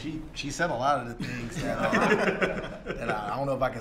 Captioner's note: laughter